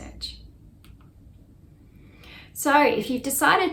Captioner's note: mouse clicks